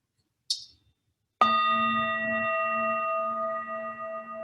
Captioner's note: bell tolling